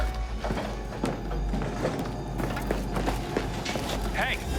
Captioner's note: footsteps